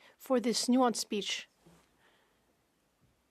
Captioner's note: speaking French